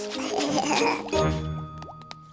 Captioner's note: giggling